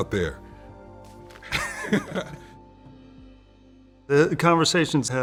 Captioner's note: laughter